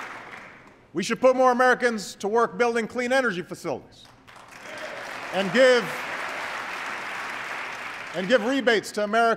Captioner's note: applause